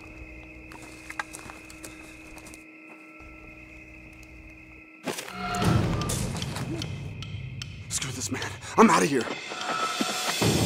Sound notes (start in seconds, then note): 4.9 rustling